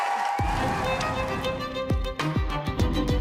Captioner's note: applause